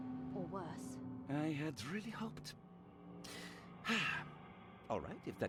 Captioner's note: sighs